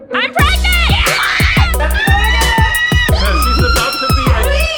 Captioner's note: children screaming; upbeat music